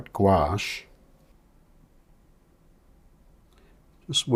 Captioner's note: silence